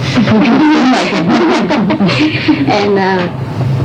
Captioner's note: laughter